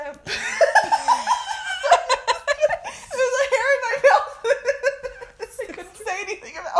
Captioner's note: laughter